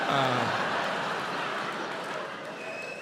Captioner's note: audience laughs